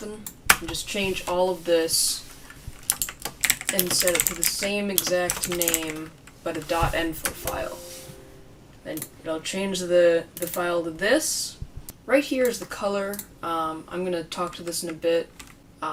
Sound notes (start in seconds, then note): 2.8 comically loud keyboard clacking